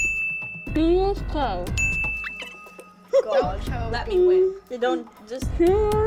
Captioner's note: bell dings